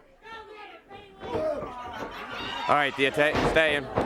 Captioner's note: crowd chatter